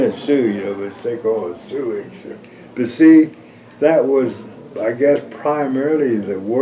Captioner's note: laughs